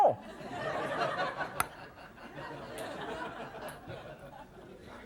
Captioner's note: audience laughs